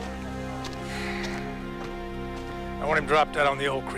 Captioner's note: Lamont sighs